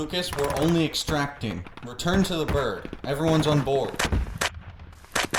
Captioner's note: radio